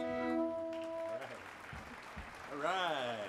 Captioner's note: audience applauds